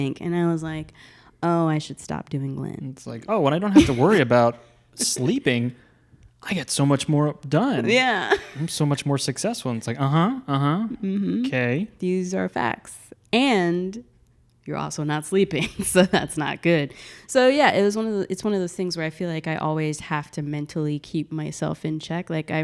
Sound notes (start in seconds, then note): 8.3 laughs